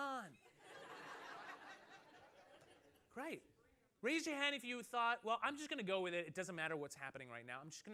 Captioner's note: laughter